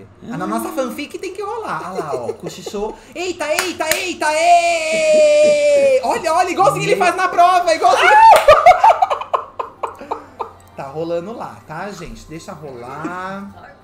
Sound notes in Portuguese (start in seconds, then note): 7.8 grita; 7.9 risadas